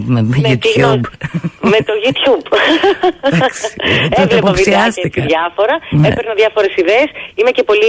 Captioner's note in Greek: γέλια